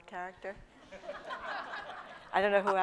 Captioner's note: laughter